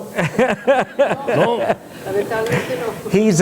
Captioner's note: laughter